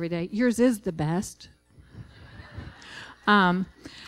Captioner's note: laughter